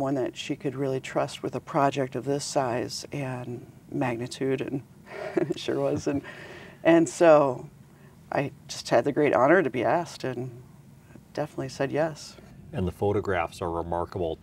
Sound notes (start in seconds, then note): 5.2 laughs